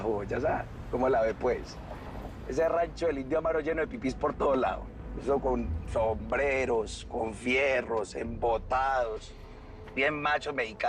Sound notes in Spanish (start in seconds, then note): none